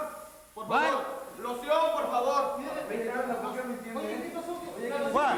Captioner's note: wrestler speaking in Spanish